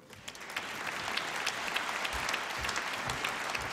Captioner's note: applause